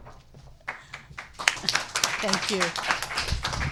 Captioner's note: audience applauding